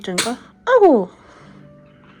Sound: achoo

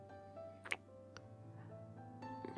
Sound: kiss

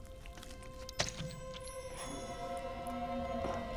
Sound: jam squelching; eerie music

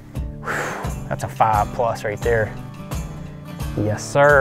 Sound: exhales sharply

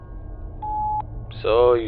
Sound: beep

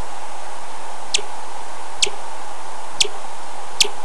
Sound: white noise begins; bat chirps

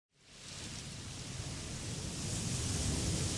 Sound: waves crashing

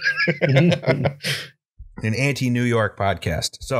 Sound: laughter

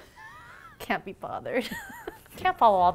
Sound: laughing

